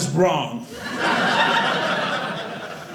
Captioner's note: audience laughing